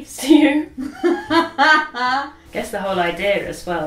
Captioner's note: laughs